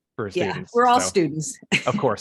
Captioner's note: chuckles